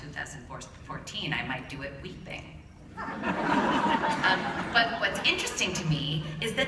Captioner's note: laughter